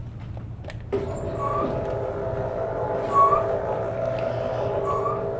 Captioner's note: mechanical whirring